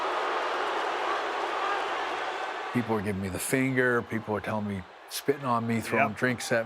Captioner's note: applause